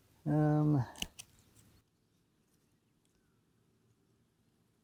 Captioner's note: scissors snipping